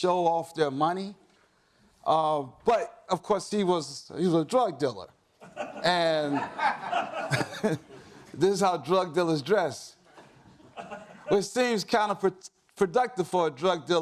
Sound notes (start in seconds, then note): 5.4 audience laughs